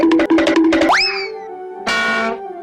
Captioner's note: cartoon wobbling sound; cartoon bonk; cartoon wheee sound